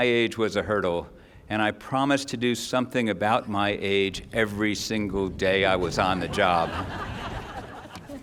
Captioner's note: laughter